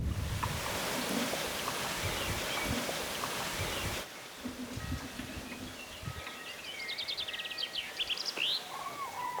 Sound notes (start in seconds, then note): 3.4 birds singing